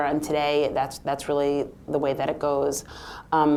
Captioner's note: none